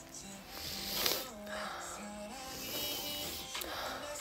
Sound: inhales

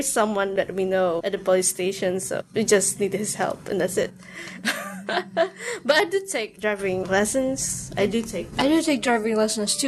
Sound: chuckles

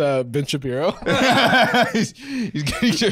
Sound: laughing

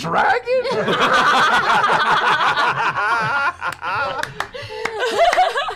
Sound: laughter

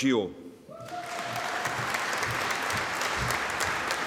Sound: audience applauding

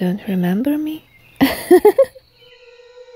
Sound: laughs

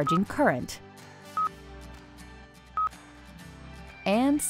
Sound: device beeps

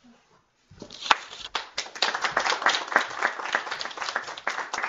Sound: applause

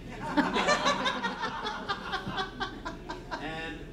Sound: laughter

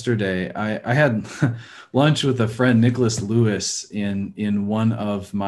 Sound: chuckles

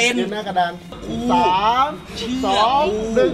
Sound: motor running

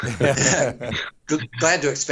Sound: group laughing

